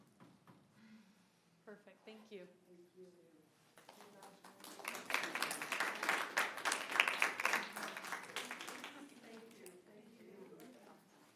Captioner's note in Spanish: aplausos